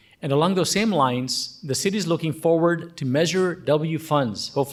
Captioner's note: none